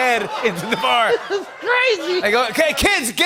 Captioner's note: laughter